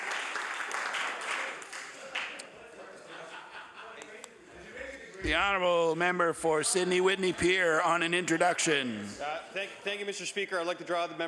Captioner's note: applause